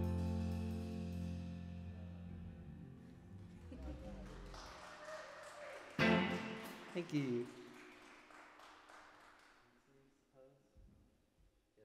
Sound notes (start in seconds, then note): 3.5 audience cheering; 3.7 laughs